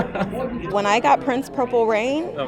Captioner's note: laughter